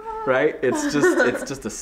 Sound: laughing

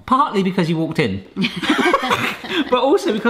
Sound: they laugh

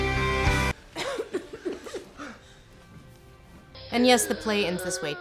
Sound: Mimi coughs back to life

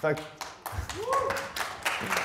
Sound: audience applauds

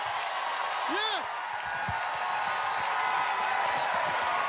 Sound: audience cheering

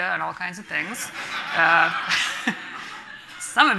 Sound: everyone laughing

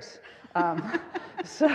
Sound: all laughing

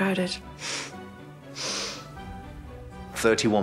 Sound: Diana sniffling

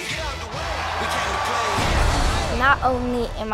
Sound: crowd screams

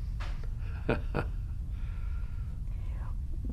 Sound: laughs

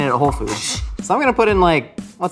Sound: scoffs

